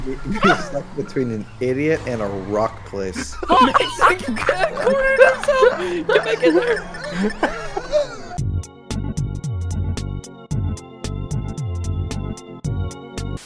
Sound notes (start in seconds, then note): 2.9 laughing continues